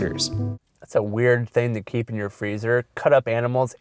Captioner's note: voiceover